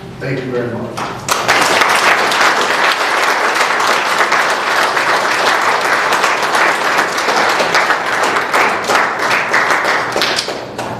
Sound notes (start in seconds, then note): 1.3 applause